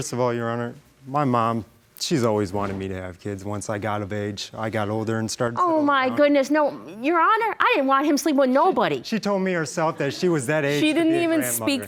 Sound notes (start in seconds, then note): none